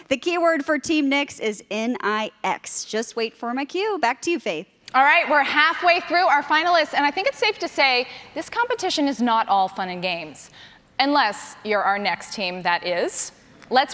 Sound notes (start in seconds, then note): none